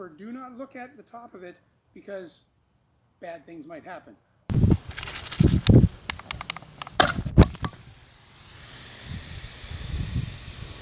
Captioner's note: pow